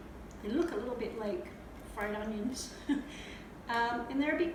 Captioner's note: giggle